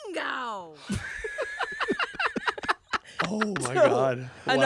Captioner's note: everyone laughs